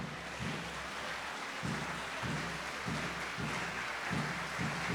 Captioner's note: audience cheers